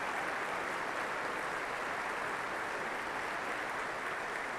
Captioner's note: cheers and applause